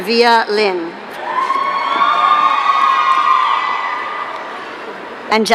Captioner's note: audience cheering